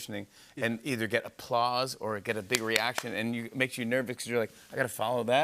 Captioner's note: none